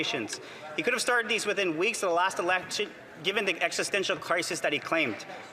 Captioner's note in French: voix de l'interprète